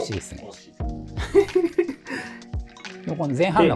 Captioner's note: laughing